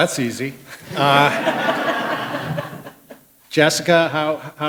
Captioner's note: laughter